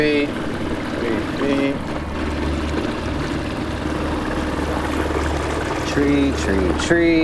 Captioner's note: water splashing